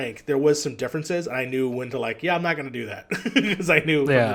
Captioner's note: laughs